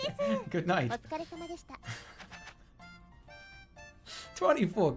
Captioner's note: chuckles; continues chuckling